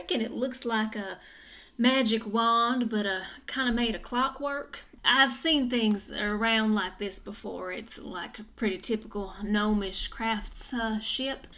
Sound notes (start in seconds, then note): none